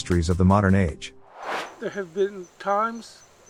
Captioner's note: air swooshes